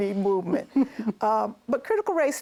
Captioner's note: laughs